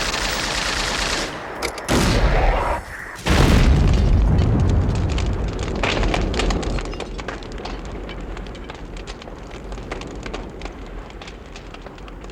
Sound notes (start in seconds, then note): 1.4 rocket whooshing; 3.4 explosion rumbling; 6.1 fire crackling